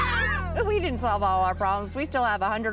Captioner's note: both scream in shock